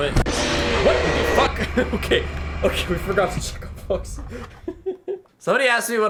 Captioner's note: laughs